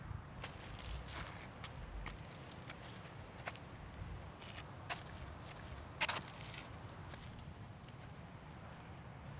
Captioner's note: sneakers scraping against limestone rock